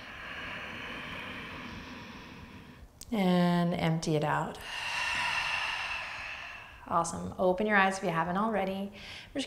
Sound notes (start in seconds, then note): 0.0 inhaling breath; 4.5 exhaling breath